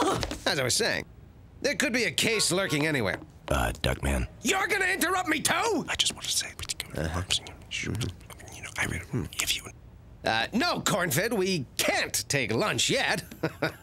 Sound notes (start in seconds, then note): 5.8 whispering